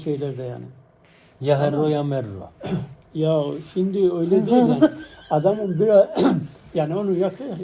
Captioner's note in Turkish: boğazını temizler